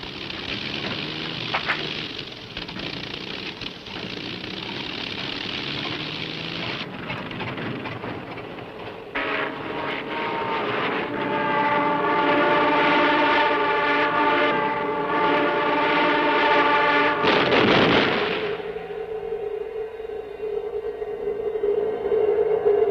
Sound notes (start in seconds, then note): 12.1 plane buzzing; 17.0 plane crashing; 19.6 eerie music